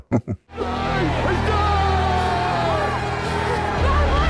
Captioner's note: Fremen cheering